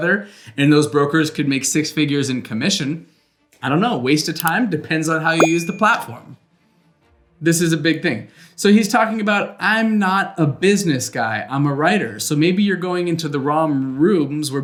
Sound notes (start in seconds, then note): 5.4 bell ringing; 5.4 mouse clicking